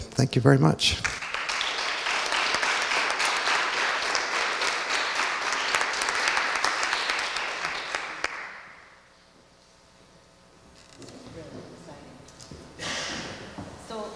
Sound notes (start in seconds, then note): 1.0 audience applauding